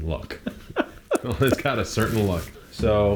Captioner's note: laughing